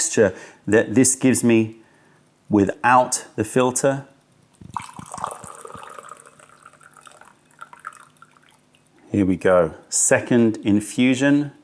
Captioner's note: pouring tea